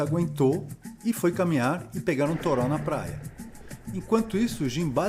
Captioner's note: heavy rain